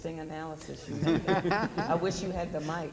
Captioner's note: panelists laugh